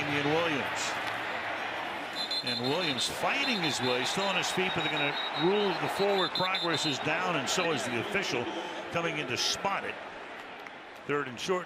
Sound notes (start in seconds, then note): 2.1 whistle